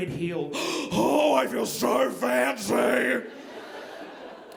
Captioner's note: gasps; audience laughing